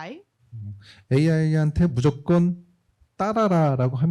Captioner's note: speaking korean